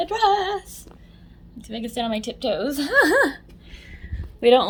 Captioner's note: laughs